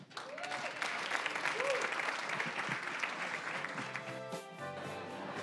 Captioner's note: applause; soft music